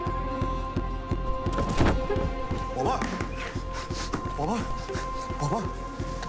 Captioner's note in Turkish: Düşme sesi